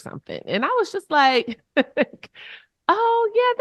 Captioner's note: chuckles